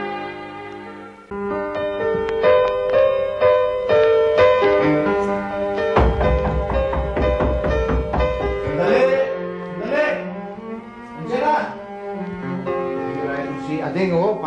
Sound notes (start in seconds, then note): 1.3 mellow music playing; 5.9 knocking on door